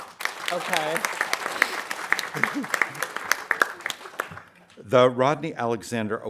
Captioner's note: audience applauding